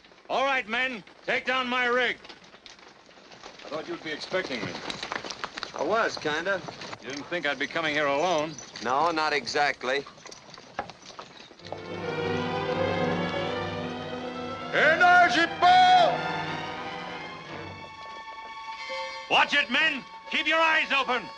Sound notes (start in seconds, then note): 14.6 shouting in Native American language